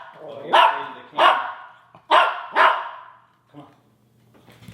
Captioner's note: speaker is drowned out by barking dog